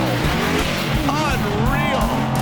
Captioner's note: engines revving